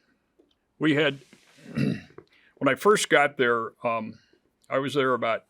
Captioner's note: clears throat